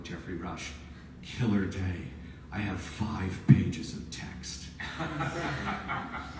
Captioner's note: audience laughs